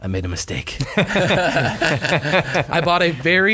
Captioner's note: laughing